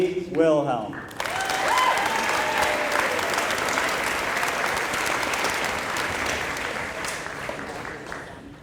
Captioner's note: applause